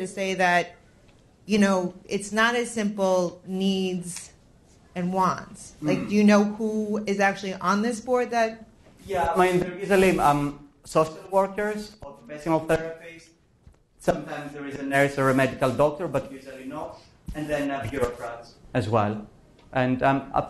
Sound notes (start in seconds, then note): 9.0 professor speaking